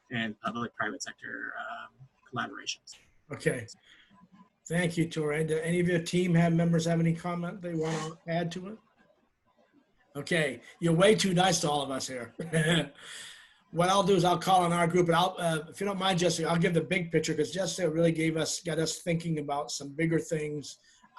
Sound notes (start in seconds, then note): 12.3 laughs